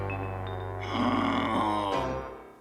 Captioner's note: growls